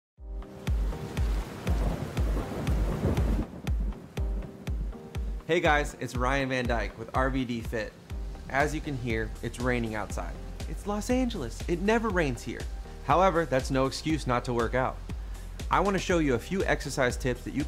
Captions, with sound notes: (Rain and thunder) Hey guys, it's Ryan Van Dyke, with RVDFIT. As you can hear, it's raining outside. It's Los Angeles, it never rains here! However, that's no excuse not to work out. I want to show you a few exercise tips that